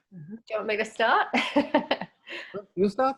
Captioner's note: laughs